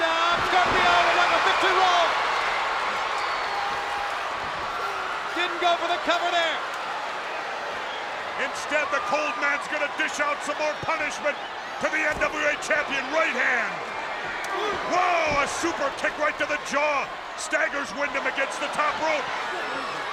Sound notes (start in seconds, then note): 2.9 spectators cheering